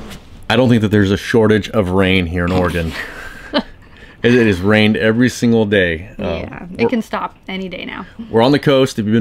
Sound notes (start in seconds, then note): 2.6 chuckles